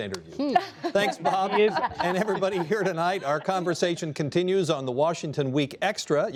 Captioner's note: laughter